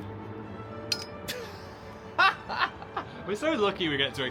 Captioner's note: glasses clink; Dan laughs